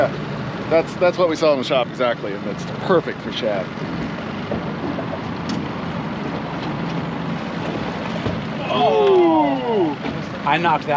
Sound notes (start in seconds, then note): 7.9 boat engine idling; 8.9 disappointed groans